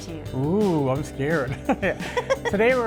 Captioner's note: laughs